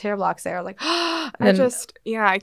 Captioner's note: gasps